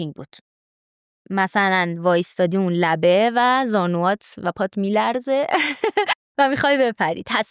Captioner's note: laughs